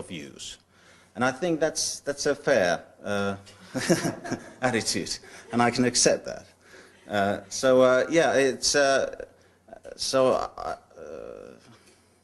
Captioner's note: laughter